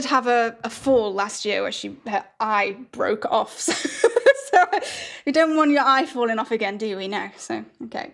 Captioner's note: laughs